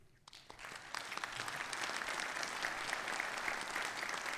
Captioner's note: people applauding